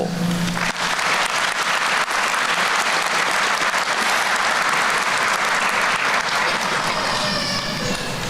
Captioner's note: applause